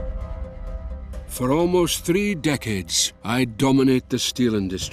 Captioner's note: Voz en off